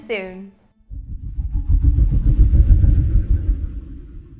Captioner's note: logo whooshing